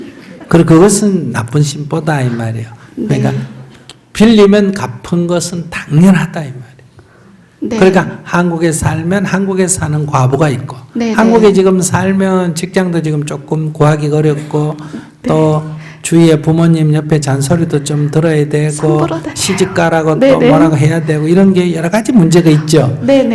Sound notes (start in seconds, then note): 18.3 questioner says in a small voice